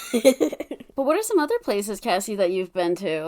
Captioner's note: laughs